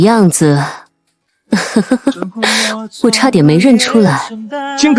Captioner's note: mocking chuckle